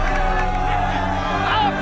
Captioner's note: cheers